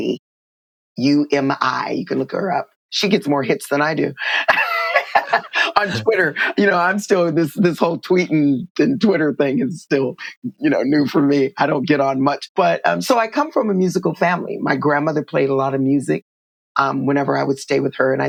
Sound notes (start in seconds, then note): 4.3 laughter